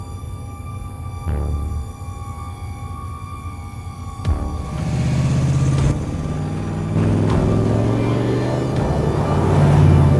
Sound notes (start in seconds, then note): 4.2 engine revving